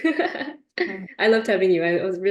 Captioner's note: laughter